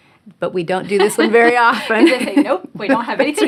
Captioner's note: laughing